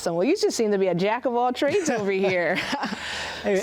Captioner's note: laughs; laughing